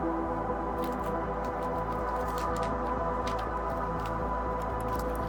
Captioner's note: pages rustling